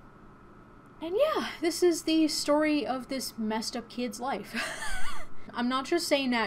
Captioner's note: chuckles